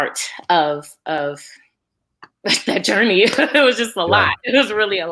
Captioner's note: laughs